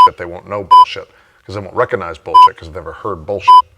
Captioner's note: beep; beep